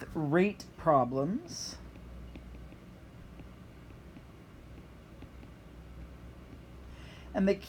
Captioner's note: writing